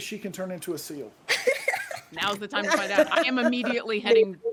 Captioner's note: person laughing